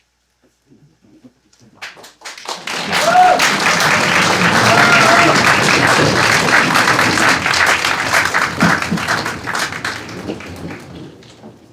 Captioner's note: applause